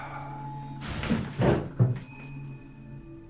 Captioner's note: chair shuffling